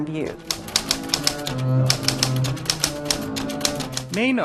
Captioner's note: typewriter keys clacking, music playing